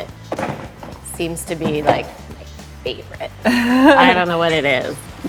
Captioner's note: laughing